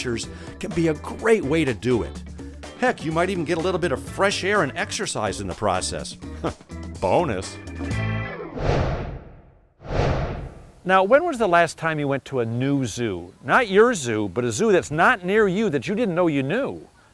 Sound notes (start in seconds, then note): 9.8 swooshing